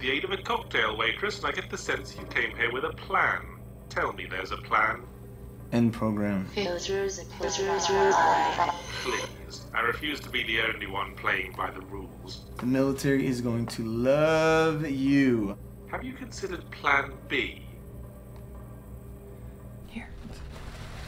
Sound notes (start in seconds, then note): 6.9 voiceover; 16.1 voiceover